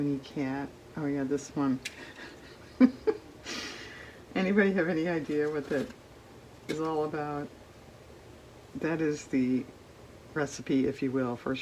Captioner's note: laughs